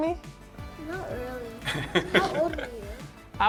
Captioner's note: laughs